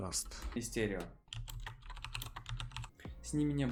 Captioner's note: click-click-click